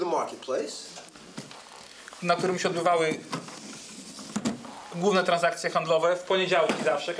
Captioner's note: speaking Polish